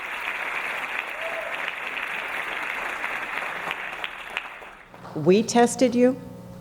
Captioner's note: audience whooping